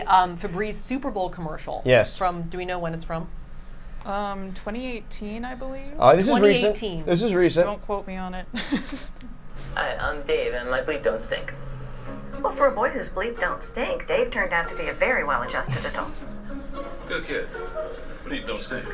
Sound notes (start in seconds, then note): 8.5 laughs